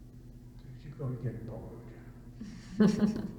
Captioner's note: laughter